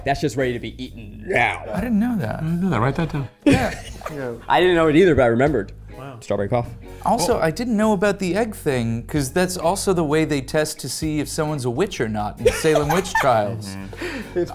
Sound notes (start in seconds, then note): 3.4 laughing; 12.4 laughing